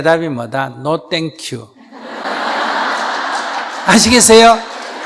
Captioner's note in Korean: 청중 웃음